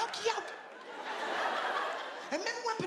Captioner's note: audience laughing